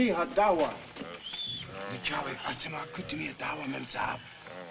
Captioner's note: murmuring